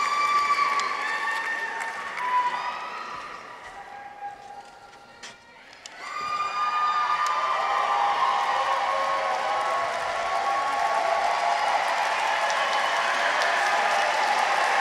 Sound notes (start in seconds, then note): 7.8 audience applauds; 7.8 audience cheers